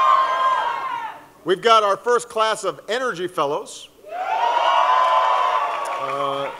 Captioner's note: cheering